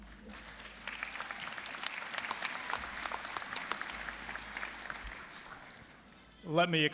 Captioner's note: applause